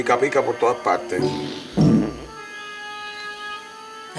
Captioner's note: gas sound